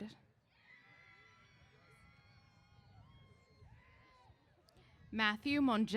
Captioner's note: cheers